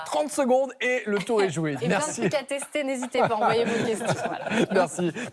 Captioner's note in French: rires